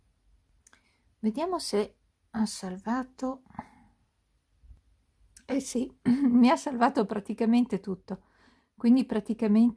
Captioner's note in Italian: schiarire la voce